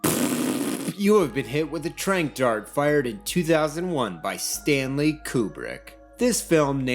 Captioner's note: blows raspberry